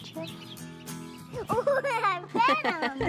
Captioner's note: laughing